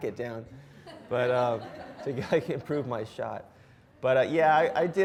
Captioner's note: audience laughs